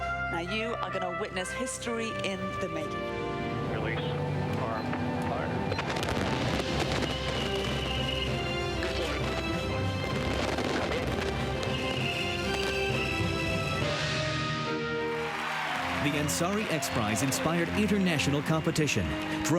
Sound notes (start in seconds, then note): 6.6 rousing music; 14.8 cheering and applause